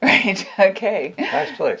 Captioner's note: laughs